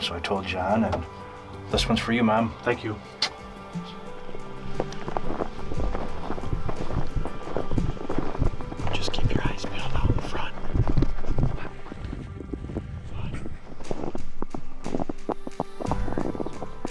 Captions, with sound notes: So I told John this one's for you, mom. Thank you. (Snow crunching) Just keep your eyes peeled out in front. (snow crunching) (quiet whispering)